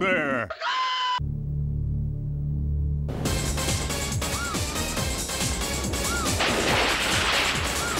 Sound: <i> dance music plays</i>; <i> chicken clucks</i>

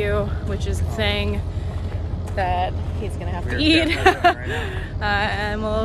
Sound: laughs

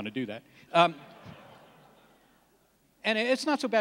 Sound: laughs

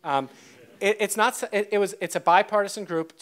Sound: audience laughs

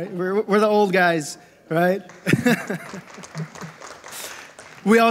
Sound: laughs

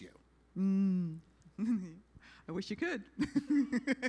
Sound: sarcastic

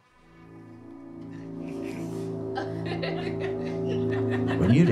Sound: eerie hum

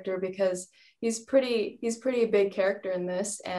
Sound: none

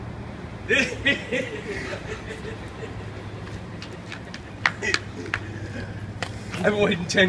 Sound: maniacal laughing

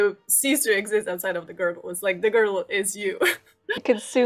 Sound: laughs

